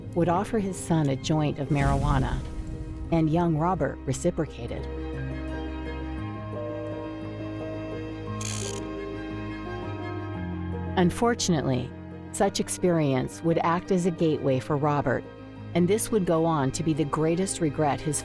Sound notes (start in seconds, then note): 5.8 whimsical music continues; 8.4 film winds